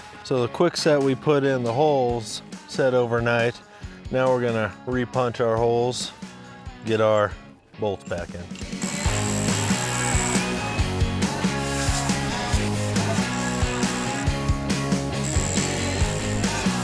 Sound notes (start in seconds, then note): 8.9 tool buzzing; 9.8 groovy rock music